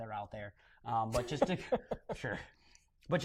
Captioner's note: laughter